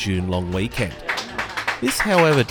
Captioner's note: crowd applauding